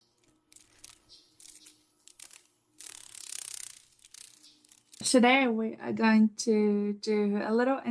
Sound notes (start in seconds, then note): 0.1 sounds of a dragon fly